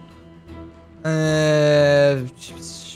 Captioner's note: mouth noises